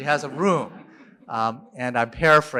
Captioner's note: laughter